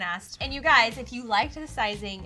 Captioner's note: rhythmic guitar music; air whooshing